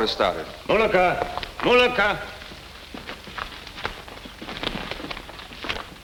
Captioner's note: speaks in foreign language